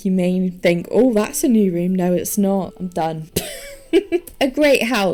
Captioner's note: laughs